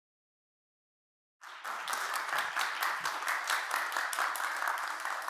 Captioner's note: applause